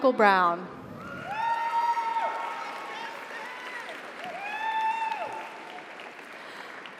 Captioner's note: audience cheers; audience applauds